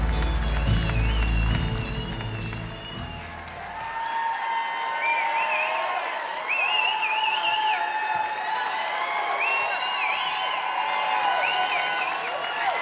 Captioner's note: cheers and applause